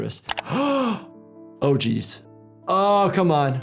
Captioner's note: gasps